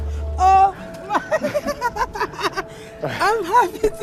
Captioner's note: woman laughing